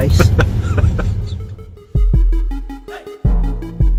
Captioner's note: camera Man Laughing